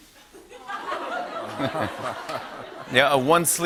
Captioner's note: laughter